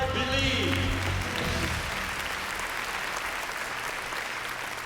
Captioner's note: applause